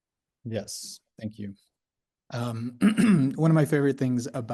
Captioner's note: clears throat